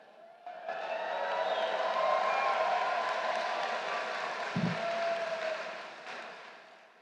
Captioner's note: applause